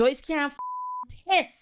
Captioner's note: beep